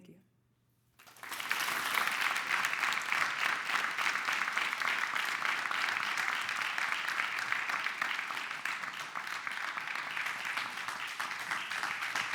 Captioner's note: clapping